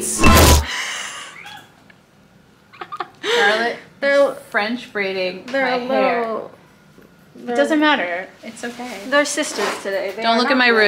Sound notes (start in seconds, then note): 0.3 exciting instrumental music; 1.1 person laughing